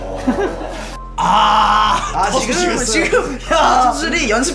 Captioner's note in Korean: 가벼운 투구 실력에 절로 나오는 탄식